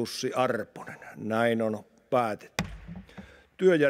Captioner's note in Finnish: kopauttaa nuijaa